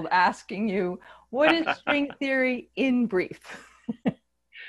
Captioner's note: laughing